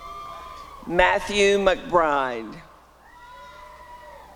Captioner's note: applause and cheering; applause and cheering